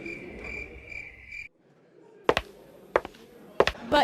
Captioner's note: crickets sounds as nobody laughs; stepping sounds